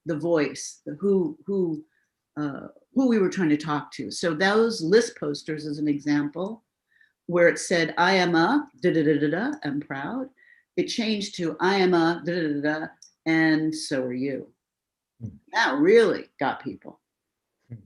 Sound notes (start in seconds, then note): none